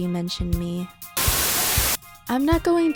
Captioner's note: Static